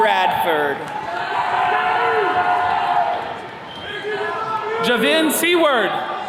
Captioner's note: attendees cheering